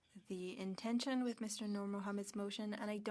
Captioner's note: speaking French